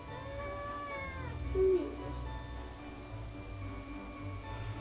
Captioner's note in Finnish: miau